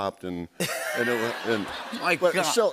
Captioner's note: laughter